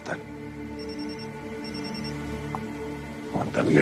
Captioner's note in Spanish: Suena un celular